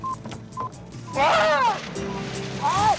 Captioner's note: Wiley yelping